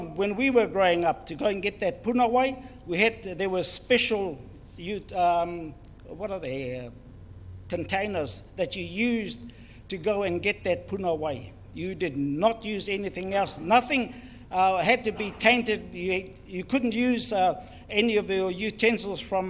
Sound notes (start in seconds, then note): 2.0 foreign Language; 10.9 foreign Language